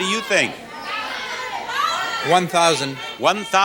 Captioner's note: audience shouts suggestions